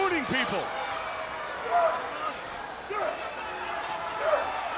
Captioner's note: crowd yelling